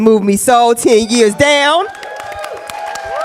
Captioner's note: cheers and applause